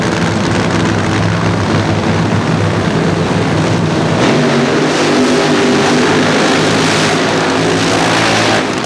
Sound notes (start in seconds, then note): 4.1 funny car burnouts